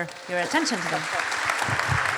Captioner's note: audience applauds